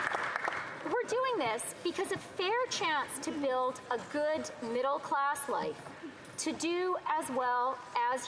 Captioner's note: some Applause